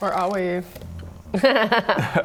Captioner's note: annoyed grunt